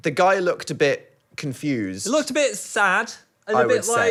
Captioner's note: none